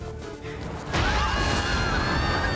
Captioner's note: people screaming